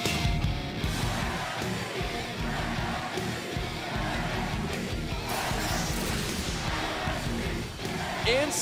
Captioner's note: crowd cheering